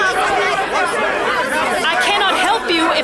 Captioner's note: shouts above the din